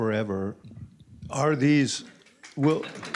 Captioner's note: applause